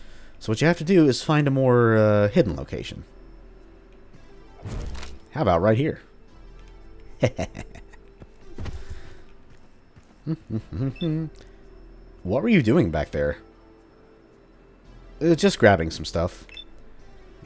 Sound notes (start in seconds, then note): 7.4 evil chuckle, followed by nonchalant humming